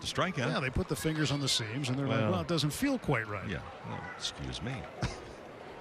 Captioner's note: laughter